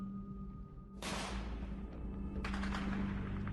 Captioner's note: rapid gunfire